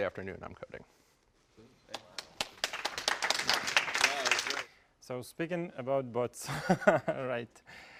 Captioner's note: applause; laugh